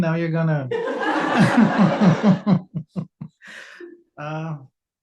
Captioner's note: audience laughs